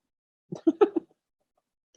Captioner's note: laughs